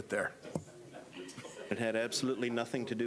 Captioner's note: laughs